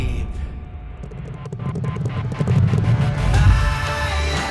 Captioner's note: horses Galloping